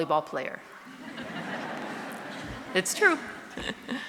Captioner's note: audience laughing